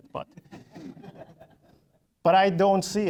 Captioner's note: audience laughing